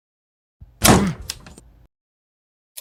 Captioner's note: door slam